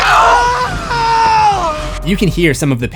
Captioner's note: screams